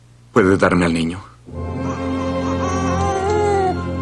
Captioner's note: baby crying